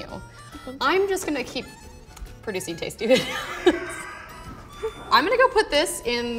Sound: laughs

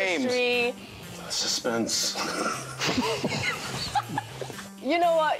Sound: group laughs

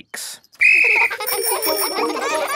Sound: blows whistle; giggling and ringing bells

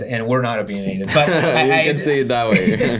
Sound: laughter

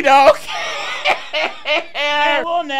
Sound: laughing

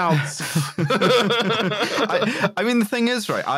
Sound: laughs; laughter

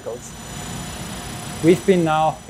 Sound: legs whirring

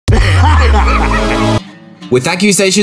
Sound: Sniper laughing

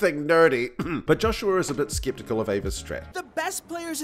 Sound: cough

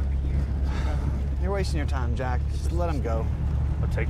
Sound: sigh

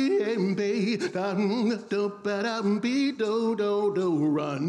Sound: vocal beat making

